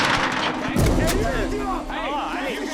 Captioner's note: speaking foreign language